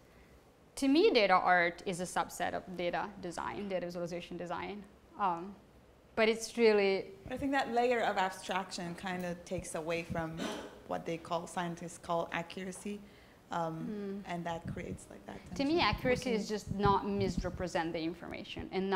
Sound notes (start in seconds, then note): 7.5 voiceover